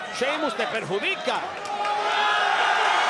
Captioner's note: applause